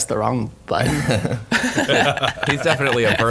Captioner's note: laughing